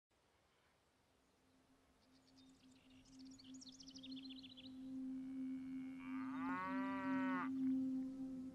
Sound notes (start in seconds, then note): 1.8 birds chirping; 5.4 cow moos